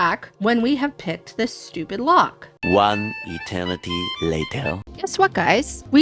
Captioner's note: french accented male narrator voice